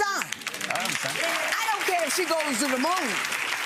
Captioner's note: audience applauds